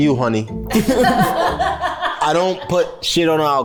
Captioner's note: everyone laughs